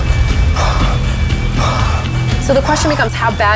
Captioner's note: heavy breathing